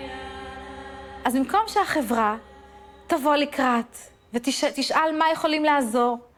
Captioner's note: speaking in foreign language